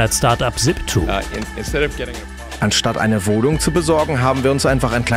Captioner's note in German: englisch